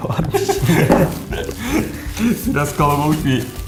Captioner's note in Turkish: Gülüşmeler